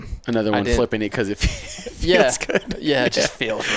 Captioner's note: laughs